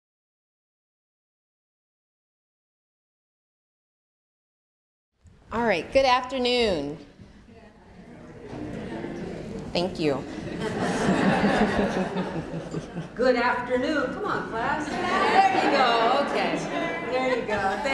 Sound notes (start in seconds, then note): 8.4 audience responding faintly; 10.4 laughter